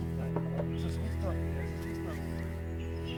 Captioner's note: knocks on wood